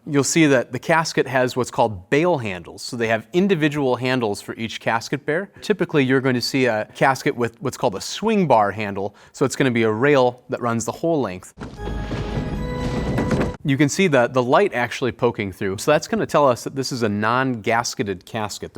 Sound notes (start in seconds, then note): 11.6 dramatic organ music; 12.8 casket lid clacking